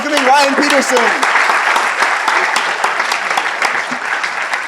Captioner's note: applause